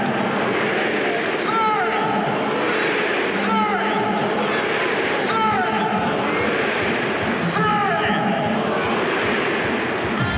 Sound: announcer shouts: "Zé!", the crowd shouts back, "Luís!"

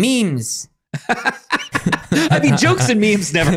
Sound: laughing

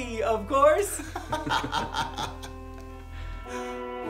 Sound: laughter

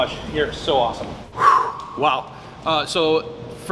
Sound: dramatic exhale

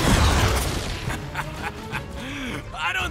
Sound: laughs

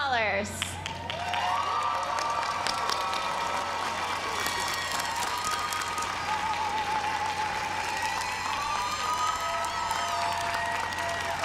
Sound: applause

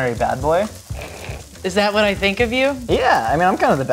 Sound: sniggering

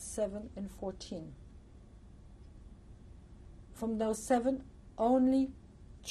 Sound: pauses for 3 seconds

